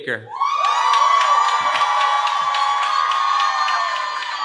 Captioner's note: cheering